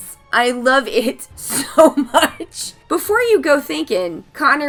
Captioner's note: laughs